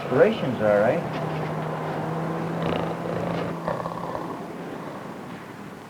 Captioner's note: traffic and city noise